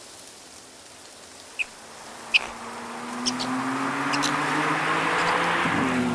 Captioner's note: twin-turbo V6 engine approaching